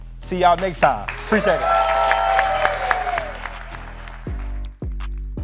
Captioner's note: audience applauds